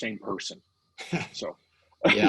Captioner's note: laughing